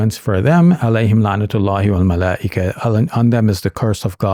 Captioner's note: speaking Arabic